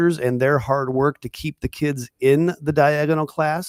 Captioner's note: none